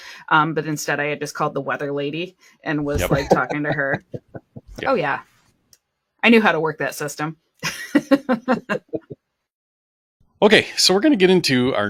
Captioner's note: laughter